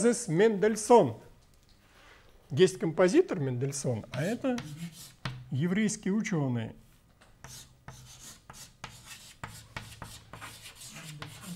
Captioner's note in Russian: звук карандаша по бумаге